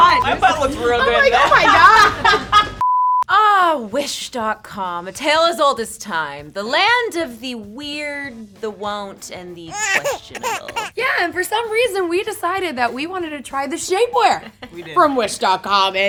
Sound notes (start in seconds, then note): 1.4 girls laughing; 2.4 high pitch beep